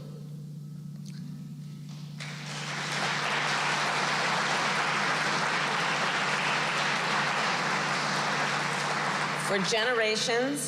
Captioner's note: applause